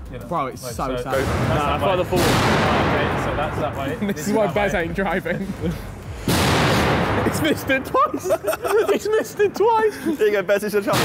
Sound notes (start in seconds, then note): 6.3 metal clanking; 7.0 all laughing